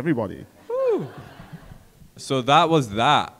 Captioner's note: audience laughs